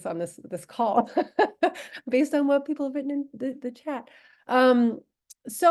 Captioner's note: laughter